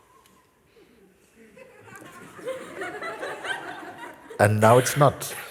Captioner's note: laughter